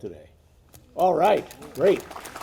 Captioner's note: audience applauding